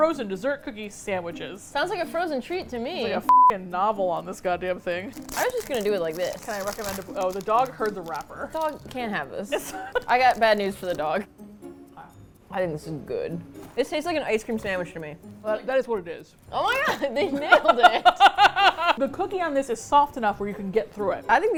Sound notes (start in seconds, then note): 9.4 laughs; 16.8 both laugh